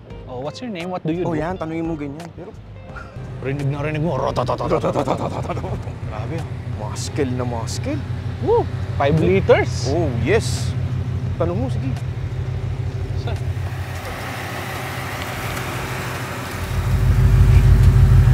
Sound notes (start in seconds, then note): 4.5 imitating engine noises